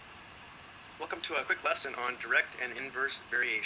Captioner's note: voiceover